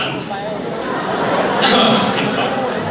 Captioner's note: cough™